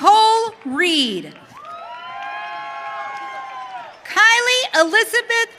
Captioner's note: audience cheering